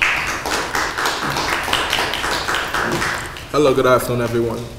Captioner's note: applause